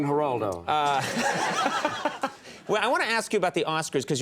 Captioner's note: audience and Conan laugh